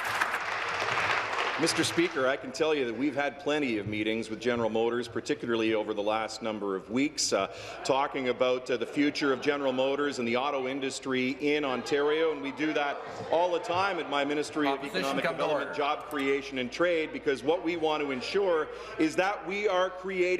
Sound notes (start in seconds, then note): 1.6 applause